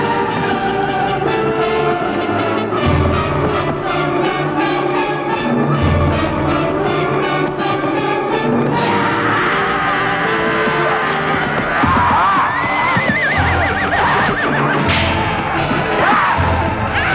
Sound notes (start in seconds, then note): 9.3 woman roaring; 12.1 horse neighing; 12.1 man yelling